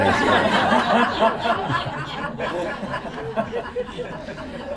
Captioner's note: laughter